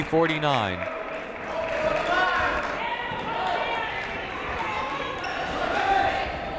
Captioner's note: people shouting in the crowd